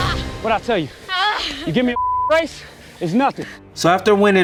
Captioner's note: groans; beep